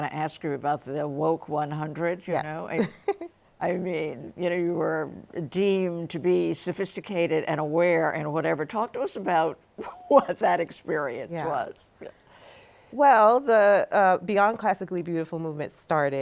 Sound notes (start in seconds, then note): 9.5 laughs